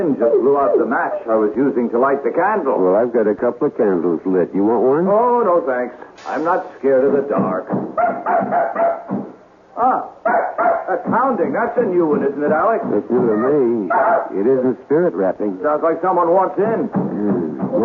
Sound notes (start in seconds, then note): 10.2 barking